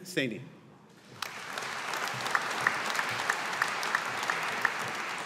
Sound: audience applauding

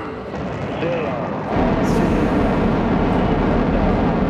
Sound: engines roaring

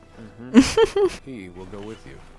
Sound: laughs

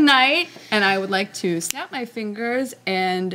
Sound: fingers snapping

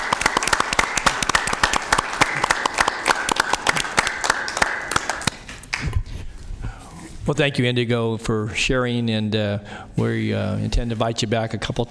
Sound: applause

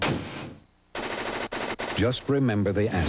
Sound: slam; typewriter

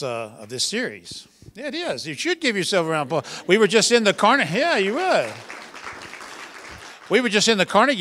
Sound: applause

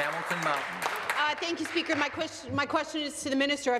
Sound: applause

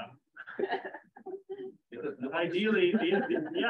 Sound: laughter

